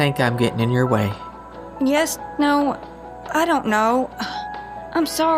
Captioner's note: Charlene scoffs